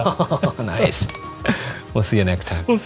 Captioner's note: glass clinks